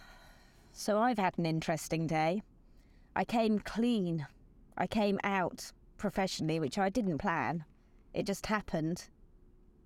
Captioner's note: sigh